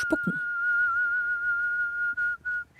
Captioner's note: she whistles